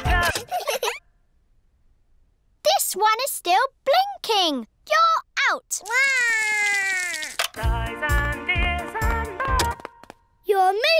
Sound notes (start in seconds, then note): 0.1 music stops; 5.9 cries; 9.9 music stops